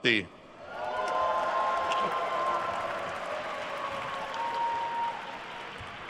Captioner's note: attendees cheering and applauding